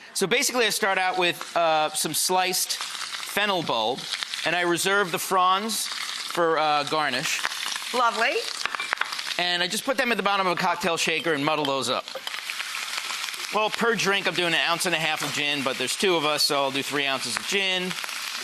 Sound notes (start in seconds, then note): none